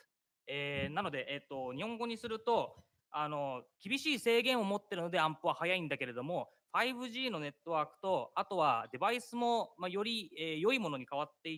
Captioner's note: speaking japanese